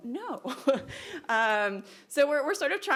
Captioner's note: laughing